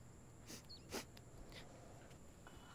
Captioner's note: Sniffs